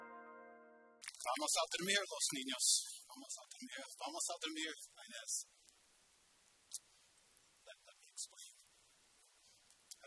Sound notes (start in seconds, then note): 1.6 speaking spanish